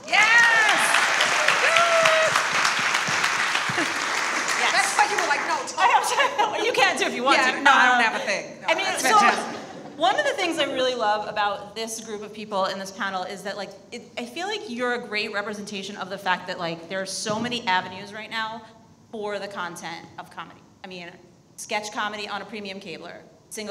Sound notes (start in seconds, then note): 0.0 audience applauds; 6.0 laughs